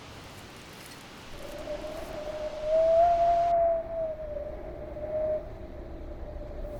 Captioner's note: wind howling